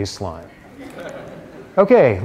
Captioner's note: laughter